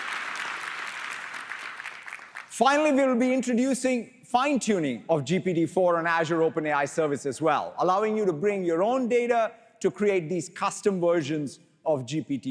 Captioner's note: applause